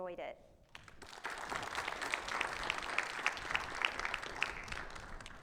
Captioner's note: participants applauding